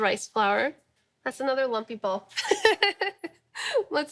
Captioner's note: laughing